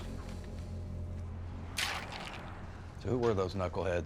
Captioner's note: ice sloshes